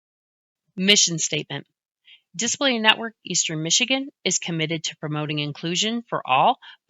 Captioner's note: voiceover